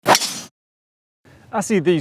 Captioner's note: ball whizzing